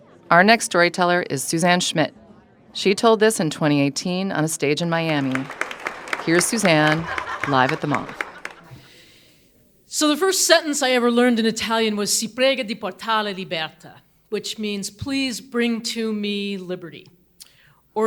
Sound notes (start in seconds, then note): 12.6 speaking in Italian